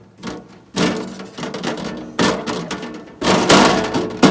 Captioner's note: more loud side panel noises; slightly more aggressive side panel noises; bang bang